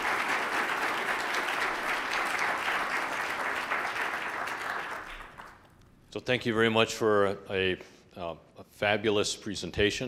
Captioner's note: applause